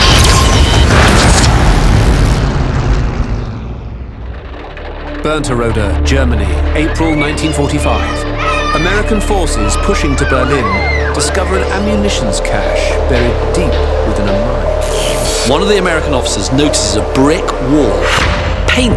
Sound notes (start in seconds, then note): 0.0 electricity buzzing; 0.2 suspenseful music; 4.3 wagons clattering